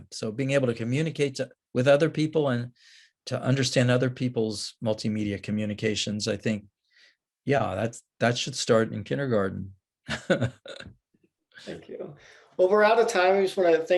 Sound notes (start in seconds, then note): 10.1 laughs